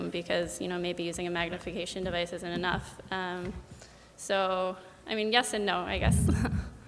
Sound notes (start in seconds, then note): 6.2 chuckles